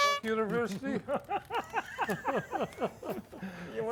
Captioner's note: horn toots; guys laughing